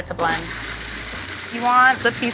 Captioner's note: blender whirring